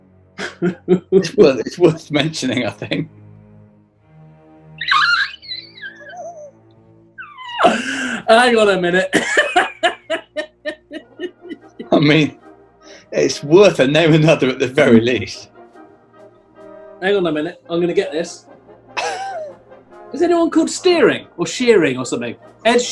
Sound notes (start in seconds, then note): 0.4 chuckliing; 4.8 quietly screeching; 9.0 laughing; 18.8 chuckling